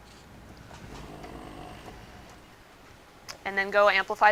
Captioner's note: machine lightly whirs